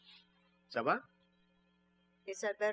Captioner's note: speaking french